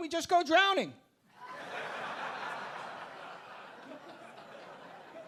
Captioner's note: audience laughing